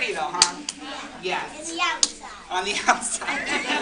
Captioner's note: laughter; laughter